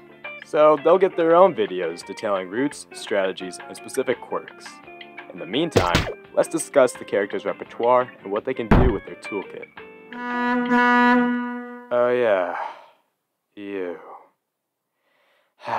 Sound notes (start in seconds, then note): 10.1 two quick boat horns approach; 15.1 sigh